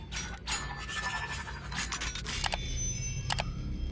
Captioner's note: robot transforming sound effect; mouse click; robot transforming sound effect; mouse click; robot transforming sound effect